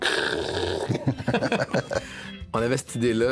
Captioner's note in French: rires